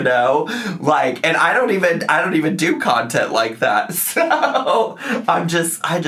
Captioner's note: laughs